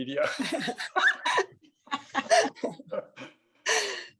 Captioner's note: laughing